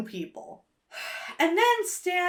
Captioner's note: sighs